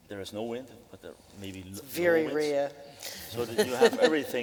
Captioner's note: laughing